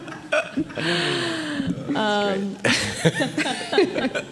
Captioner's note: group laughing